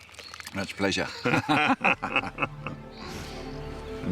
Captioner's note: both laugh